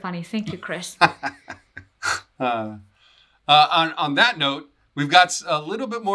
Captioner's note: laughter